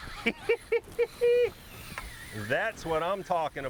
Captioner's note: laughs; drag screaming